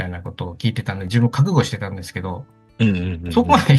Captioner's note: laughs